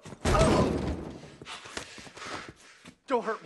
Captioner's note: heavy breathing